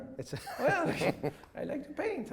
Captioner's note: chuckles